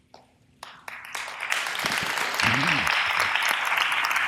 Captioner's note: audience applause